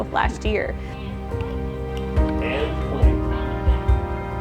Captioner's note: background TV playing